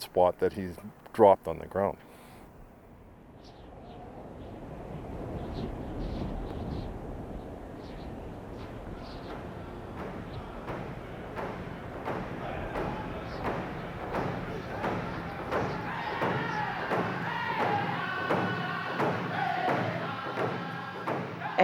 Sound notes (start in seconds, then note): 5.4 wind blowing; 10.1 drums and chanting